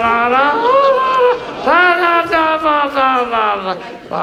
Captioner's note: Button mimicking